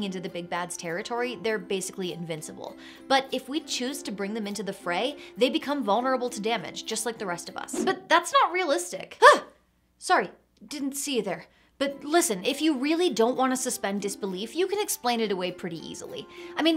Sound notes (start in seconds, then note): 7.9 air whooshes; 9.3 gasps